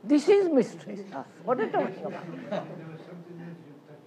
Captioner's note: laughter